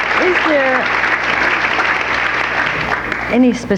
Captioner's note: audience applauding